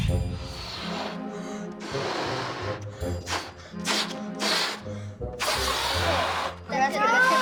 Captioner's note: dramatic music; blowing